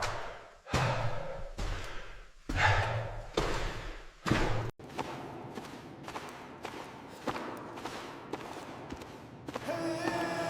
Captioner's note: footsteps